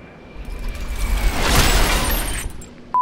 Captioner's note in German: Splatsch